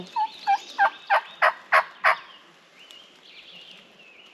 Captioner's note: imitates bird